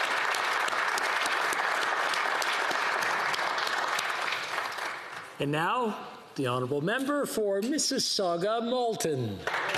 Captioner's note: applause